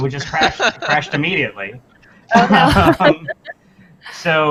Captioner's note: laughter